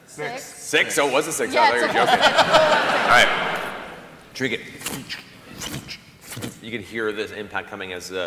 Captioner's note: squishy footsteps